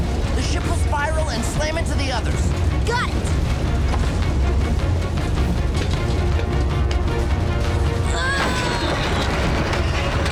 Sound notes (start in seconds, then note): 8.0 grunting